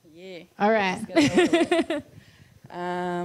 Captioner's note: laughs